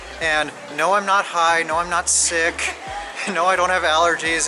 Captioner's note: giggles